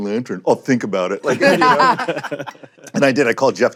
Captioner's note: laughter